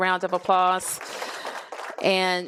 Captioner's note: applause